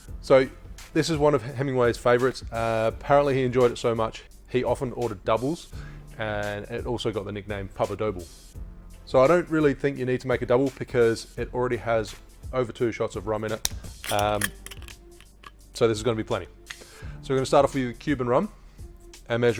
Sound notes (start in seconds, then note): 13.6 lid twists